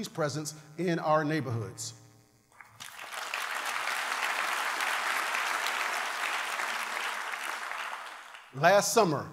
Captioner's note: applause